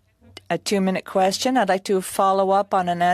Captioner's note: speaking French